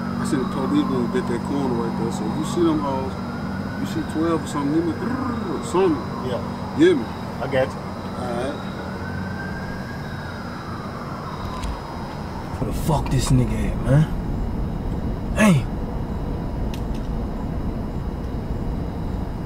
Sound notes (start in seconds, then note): 9.7 sirens wailing